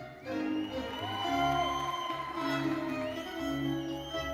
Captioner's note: crowd cheering